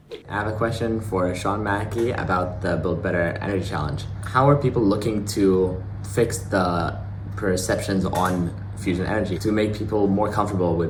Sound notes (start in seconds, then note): none